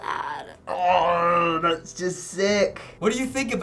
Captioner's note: groans